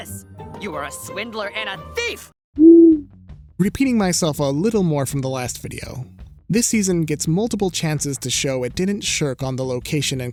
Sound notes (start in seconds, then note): 2.3 owl hoots